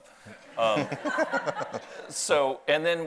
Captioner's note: audience laughs